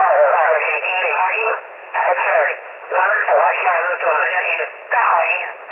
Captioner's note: radio chatter